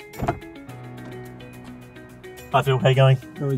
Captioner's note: car door opening